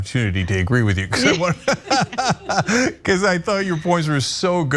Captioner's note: laugh